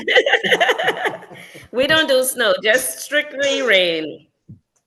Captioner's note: laugh